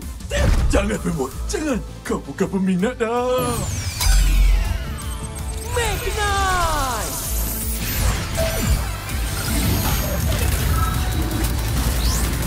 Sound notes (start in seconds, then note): 7.1 beeping, whirring; 7.3 cool action music playing